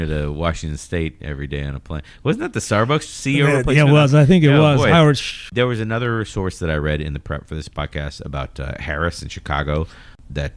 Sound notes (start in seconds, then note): 3.3 uh